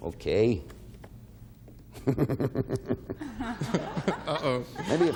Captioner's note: laughs